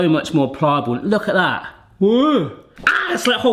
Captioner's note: yelps